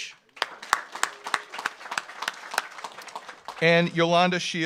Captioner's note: audience applauds